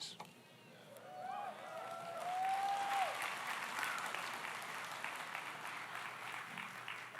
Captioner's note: audience cheers; audience applauds